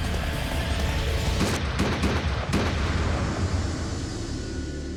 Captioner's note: gunshots